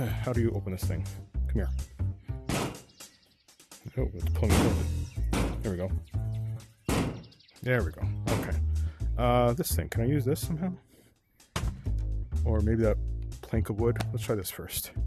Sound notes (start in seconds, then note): 2.5 bang; 2.5 bang*bang; 6.9 bang